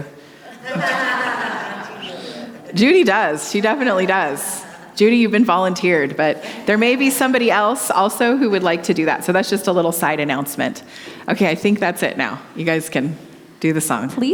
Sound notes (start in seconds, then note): 0.4 audience laughing